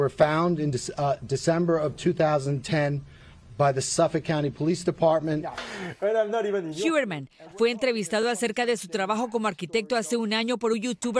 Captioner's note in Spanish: hablan en inglés